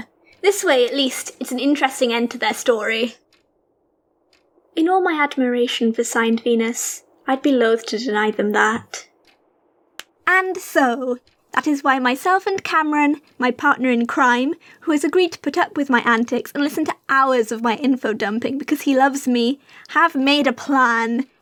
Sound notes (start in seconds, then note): 9.6 claps